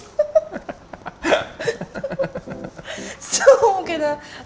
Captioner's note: both laugh